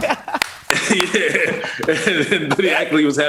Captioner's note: laughs